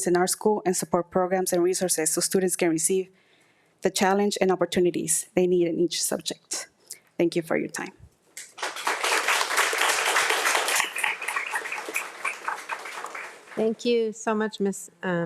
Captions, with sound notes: in our school and support programs and resources so students can receive the challenge and opportunities they need in each subject. - Thank you for your time. (audience applauding) - Thank you so much, Ms. Montano.